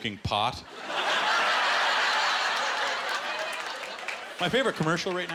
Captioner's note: laughter